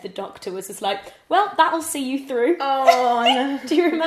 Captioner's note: laughs